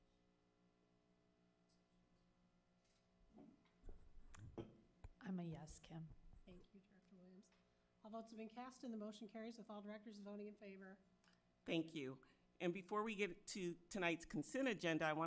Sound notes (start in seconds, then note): 3.5 object clatters